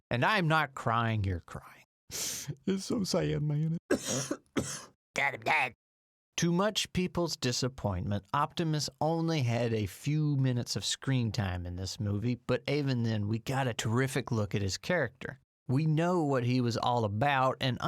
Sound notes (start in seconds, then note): 2.1 sniff; 3.8 coughs